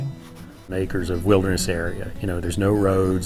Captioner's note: voiceover